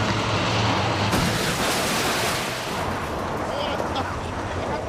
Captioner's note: crashing